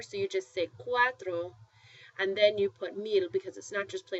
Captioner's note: spanish